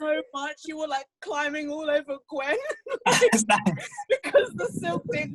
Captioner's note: laughs